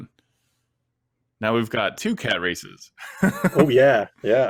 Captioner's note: laughing